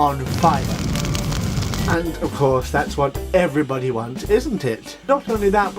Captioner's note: flames crackling